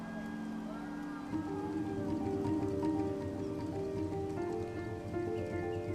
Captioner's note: people softly cheering